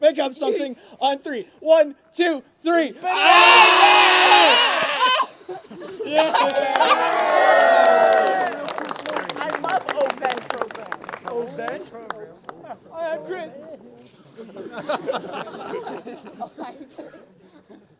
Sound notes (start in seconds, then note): 3.3 cheering; 5.3 laughter; 6.0 cheering; 14.3 laughter